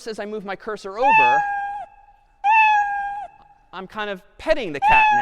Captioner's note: cat meowing